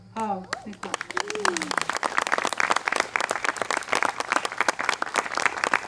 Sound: applause

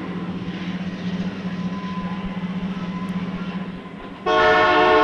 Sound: sound of the train moving; train horn

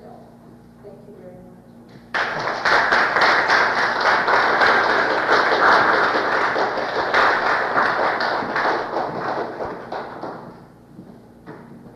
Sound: applause, audience questions and discussion, closing

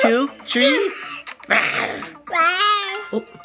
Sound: roaring

